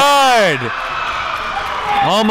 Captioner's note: crowd cheering; crowd clapping